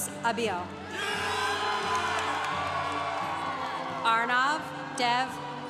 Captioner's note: congregation cheering